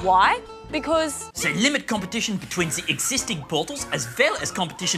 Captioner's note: german accent